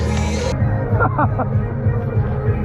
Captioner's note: laughing